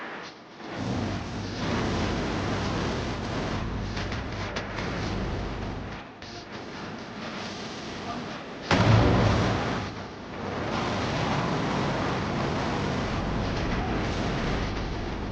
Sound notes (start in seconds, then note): 2.0 dramatic music continues; 8.7 explosion booms; 8.7 dramatic music